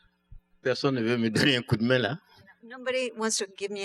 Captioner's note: speaking french